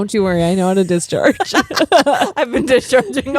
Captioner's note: both laughing